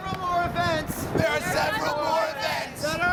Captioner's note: crowd Responds